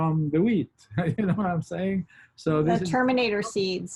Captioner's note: laughs